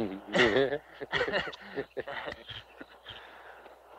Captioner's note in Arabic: رجال الشرطة يضحكون